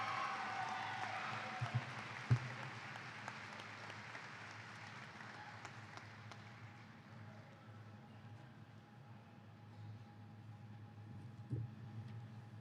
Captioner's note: cheers and applause